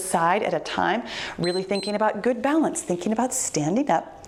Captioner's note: timer beeps